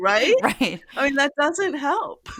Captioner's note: laugh